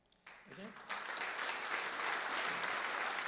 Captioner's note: applause